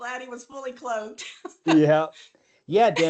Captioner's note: laughs